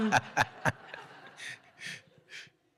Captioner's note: audience Laughs